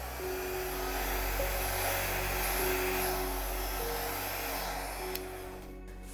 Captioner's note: blow dryer blowing; soft piano music